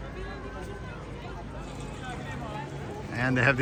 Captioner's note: people chattering